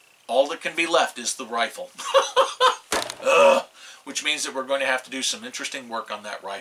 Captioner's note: laughs, "ugh"